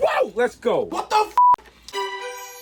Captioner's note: beep